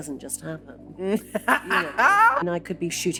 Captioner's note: laughing